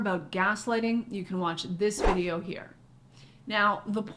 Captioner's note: air whooshes